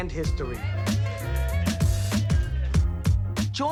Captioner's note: cheering